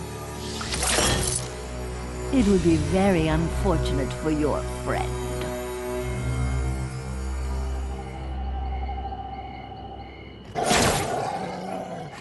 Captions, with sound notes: it would be very unfortunate for your friend. [night insect noises]